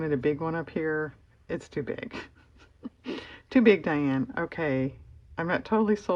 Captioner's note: laughs